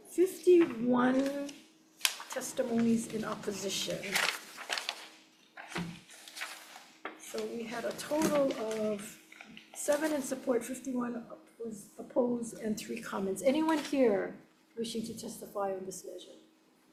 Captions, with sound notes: 51 testimonies in opposition. (papers ruffling) So we had a total of seven in support, 51 was opposed and three comments. Anyone here wishing to testify on this measure?